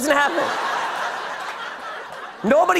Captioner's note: laughter